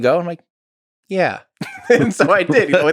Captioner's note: Lex laughs; Tim laughs